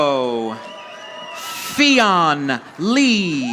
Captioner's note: audience applauding